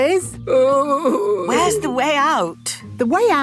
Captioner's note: groaning